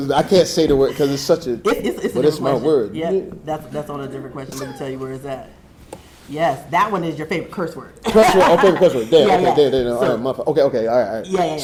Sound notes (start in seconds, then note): 8.0 laughs